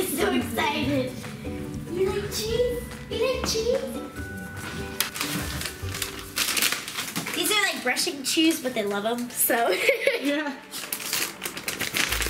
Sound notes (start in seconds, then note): 4.4 cute music; 9.7 laughing